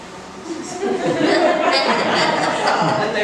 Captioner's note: laughs